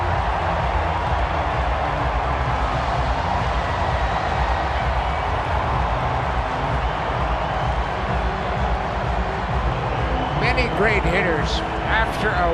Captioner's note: crowd cheering